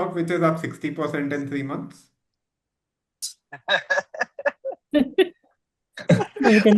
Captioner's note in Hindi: हंसी